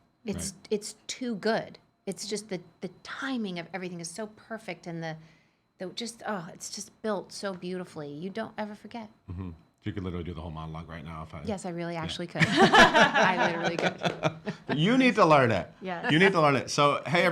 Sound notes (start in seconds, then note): 12.4 laughing